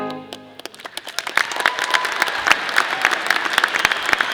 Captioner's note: audience applause